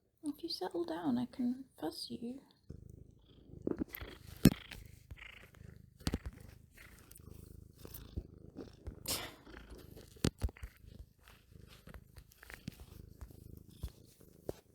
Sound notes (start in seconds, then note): 3.7 ASMR intensifies; 9.1 chuckles